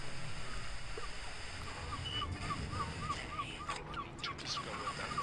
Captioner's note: seabirds squawking